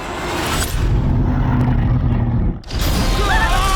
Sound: roaring

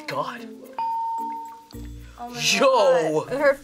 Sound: bell rings

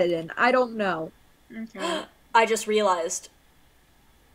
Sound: gasps

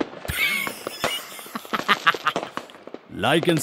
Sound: Fake Balman Laughter

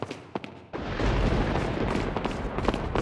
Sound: dramatic thunder

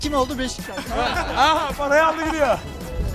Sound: laughter

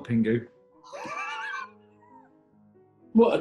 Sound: sniggering

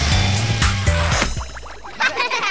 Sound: laughing

